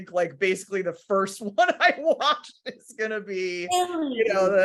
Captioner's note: laughing